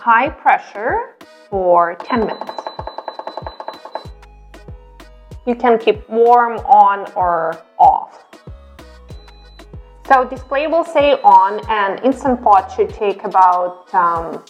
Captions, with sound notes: for 10 minutes. (beeping) You can keep warm on or off. So, the display will say on and Instant Pot should take about